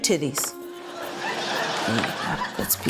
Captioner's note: laughter